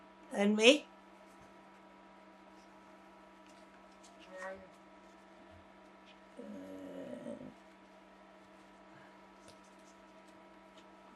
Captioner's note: pauses 11 seconds